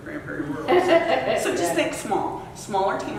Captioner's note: laughter